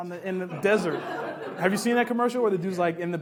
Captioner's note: laughs